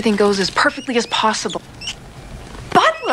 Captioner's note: rat squeaking